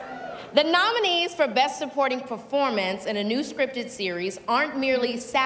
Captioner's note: cheers and applause